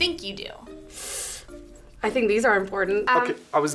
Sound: sighs

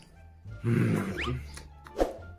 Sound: wierd mouth sounds

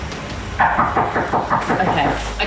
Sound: knocking

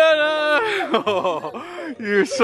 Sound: giggling

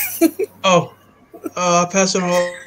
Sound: laughs

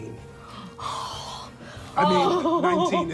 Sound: sighs

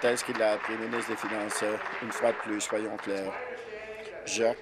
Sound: applause

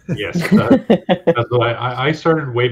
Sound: laughing

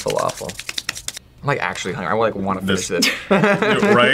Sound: laughs

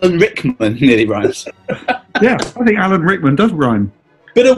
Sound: laughter

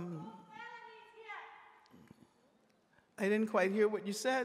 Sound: woman shouts off mic

